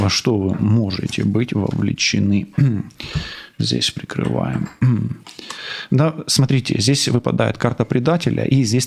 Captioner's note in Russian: откашливается